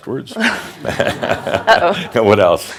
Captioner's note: some chuckles